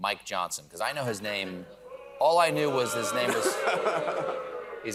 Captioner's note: booing